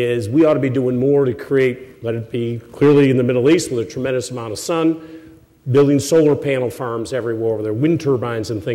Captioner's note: none